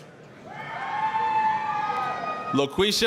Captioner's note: applause, cheering